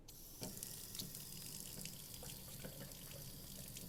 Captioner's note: faucet running